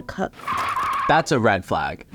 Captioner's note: tires squealing